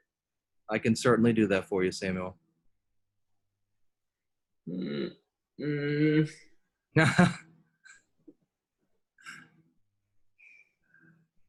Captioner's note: laughter